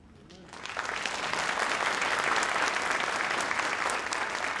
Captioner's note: audience applauding